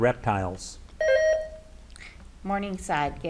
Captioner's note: buzzer beeps